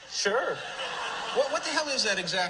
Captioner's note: crowd laughing